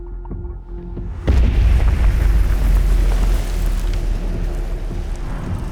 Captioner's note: explosion booming